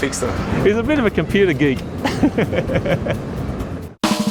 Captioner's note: laughs